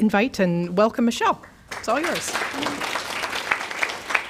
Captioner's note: applause